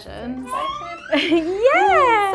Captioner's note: fussing